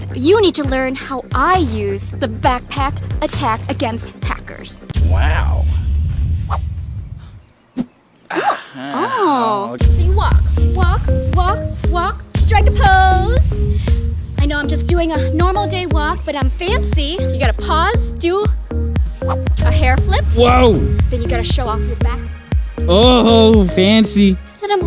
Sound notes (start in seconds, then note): 6.4 whooshing; 8.5 groaning